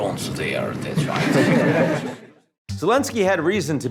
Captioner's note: reporters laugh